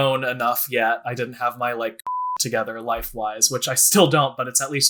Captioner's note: beep